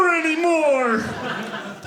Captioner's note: audience laughing